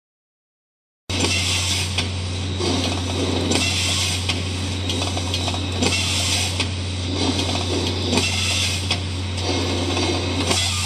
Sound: sound of hydraulic machine

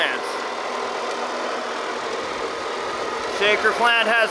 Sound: machinery engine revs

